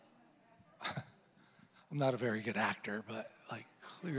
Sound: chuckles

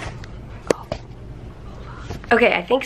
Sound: whispers

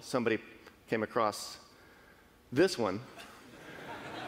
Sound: laughing

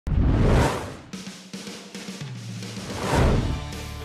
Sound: whooshing

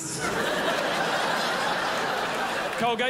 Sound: crowd laughs

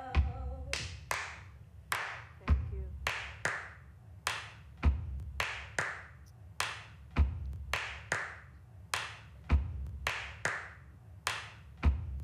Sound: clapping and rhythmic stomping

